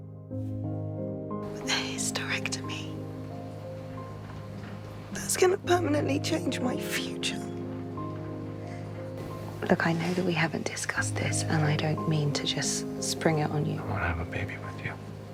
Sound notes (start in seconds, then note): 1.6 voiceover; 2.1 whispering